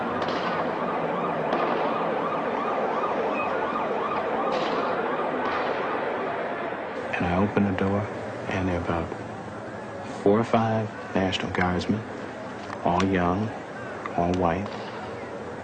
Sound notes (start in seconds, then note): 0.0 sirens and gunfire